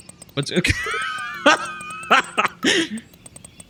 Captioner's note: laughs